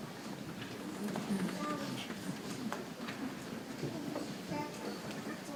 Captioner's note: people chattering softly